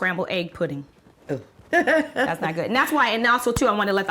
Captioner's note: laughs